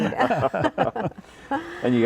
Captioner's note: all chuckling